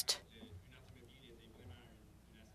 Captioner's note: speaking French